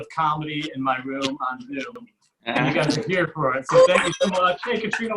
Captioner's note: audience Cheers